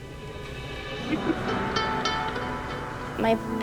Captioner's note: laughs